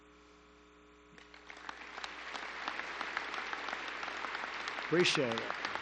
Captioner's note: applause